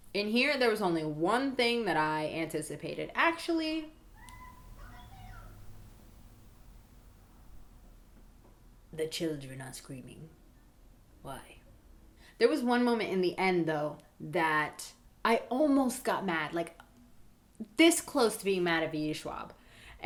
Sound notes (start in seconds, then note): 4.1 children yelling outside